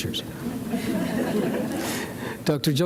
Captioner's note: audience laughs